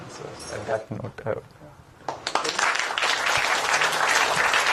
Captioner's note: applause